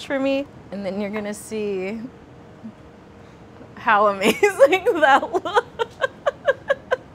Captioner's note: laughs